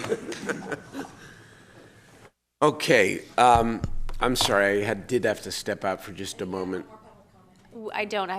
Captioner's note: laughter